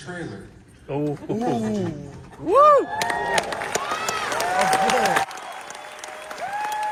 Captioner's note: applause